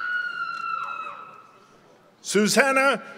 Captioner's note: members of the audience cheer